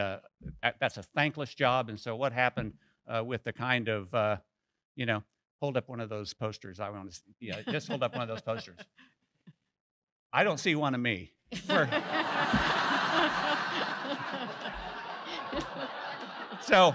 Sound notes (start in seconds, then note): 11.5 laughter